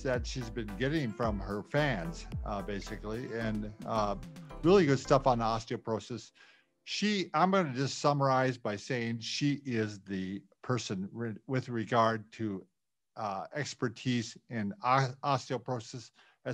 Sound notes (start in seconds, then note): none